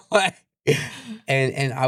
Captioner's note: laughs